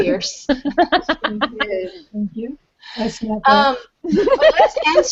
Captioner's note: laughing